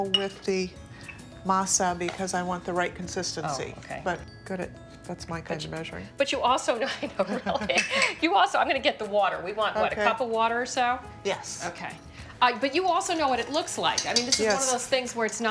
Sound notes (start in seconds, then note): 6.8 laughing